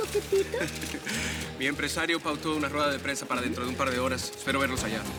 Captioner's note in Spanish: Él ríe